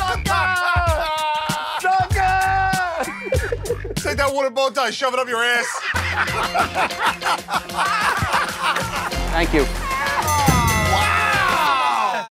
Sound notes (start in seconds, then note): 0.1 laughs; 3.0 laughter; 5.5 laughter; 10.3 ding!